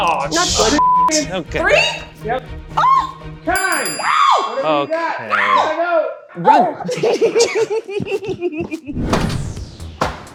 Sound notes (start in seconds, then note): 3.5 chime sound; 6.4 giggles